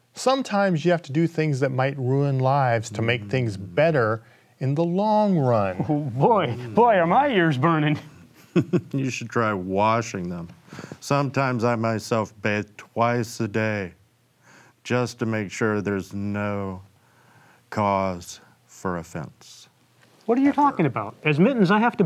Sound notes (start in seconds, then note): 7.6 chuckles